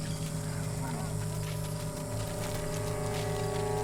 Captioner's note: quietly